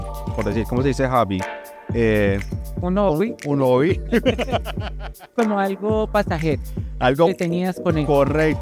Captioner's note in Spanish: risas